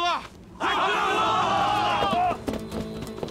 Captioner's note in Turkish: Hep bir ağızdan